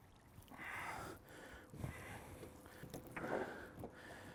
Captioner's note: heavy breathing